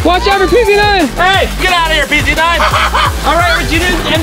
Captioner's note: laughing